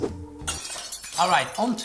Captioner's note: shattering